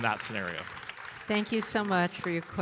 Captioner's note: audience applauding